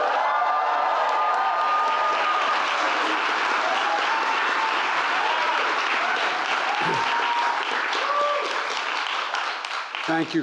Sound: applause

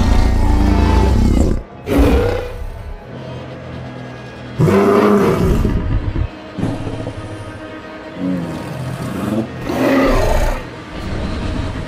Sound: carcharodontosaurus roar and growl

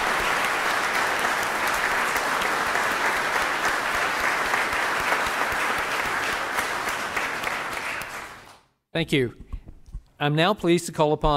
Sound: applause

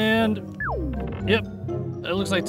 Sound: beeping

